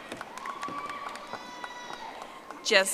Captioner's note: audience applauding